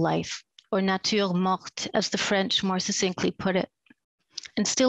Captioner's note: speaks french